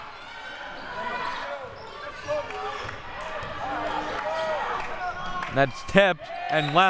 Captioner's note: audience chattering and yelling